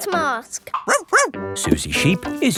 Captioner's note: barks